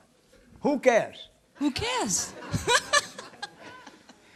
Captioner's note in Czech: smích